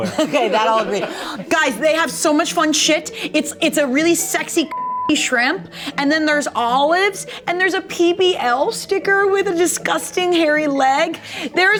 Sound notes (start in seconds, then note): 0.0 people laugh; 4.7 beep